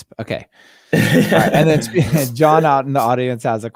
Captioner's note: laughing